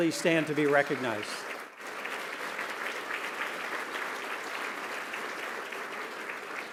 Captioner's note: applause